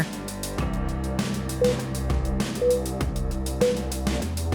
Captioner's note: timer beeping